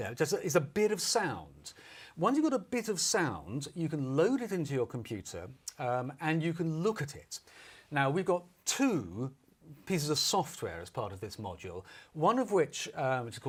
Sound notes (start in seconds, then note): none